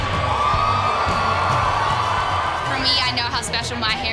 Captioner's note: cheering